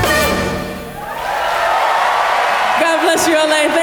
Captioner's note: applause